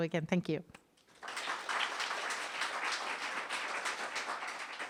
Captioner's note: audience applauding